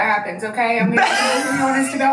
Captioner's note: laughs